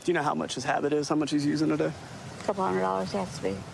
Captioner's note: none